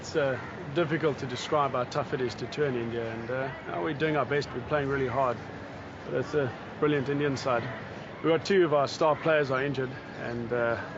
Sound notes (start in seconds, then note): none